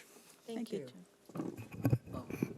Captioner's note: overlapping chattering